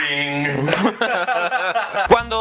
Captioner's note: laughs